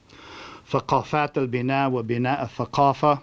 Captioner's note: non-english speech